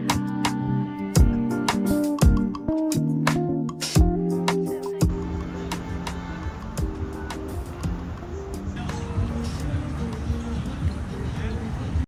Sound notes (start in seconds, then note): 8.5 city noise